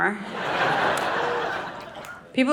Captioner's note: audience laughing